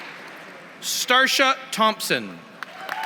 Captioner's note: applause; applause